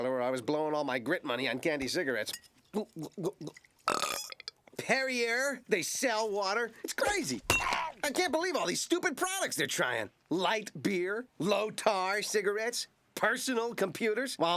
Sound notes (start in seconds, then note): 2.6 gulping; 3.8 burping